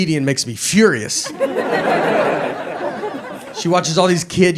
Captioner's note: audience laughs